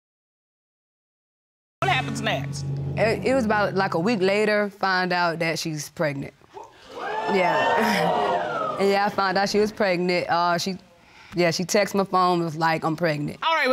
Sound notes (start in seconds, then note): 6.6 audience exclaiming